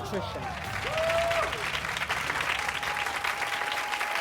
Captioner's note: audience applauds